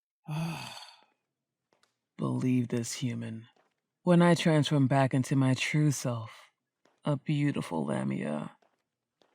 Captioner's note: groan